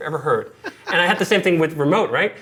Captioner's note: laughing